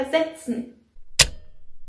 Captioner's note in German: Click